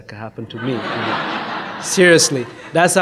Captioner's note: audience laughs